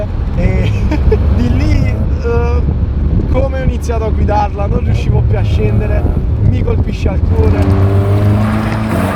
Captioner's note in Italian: risate di emozione